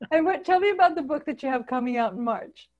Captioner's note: laughing